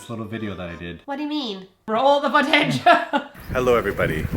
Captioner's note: laugh